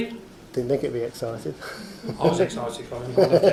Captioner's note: laughs